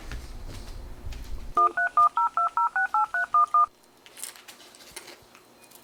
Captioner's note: phone keys dialing